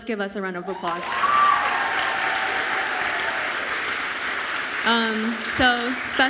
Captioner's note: audience applauds